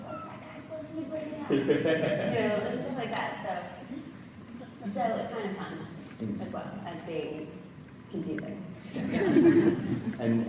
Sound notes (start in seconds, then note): 1.6 moderator laughs; 9.0 audience laughs